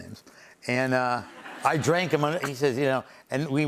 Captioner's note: laughter